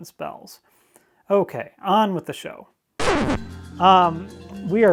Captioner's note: vinyl record skips